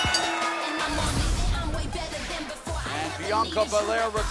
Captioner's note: bell ringing